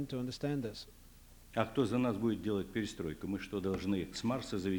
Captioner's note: non-english speech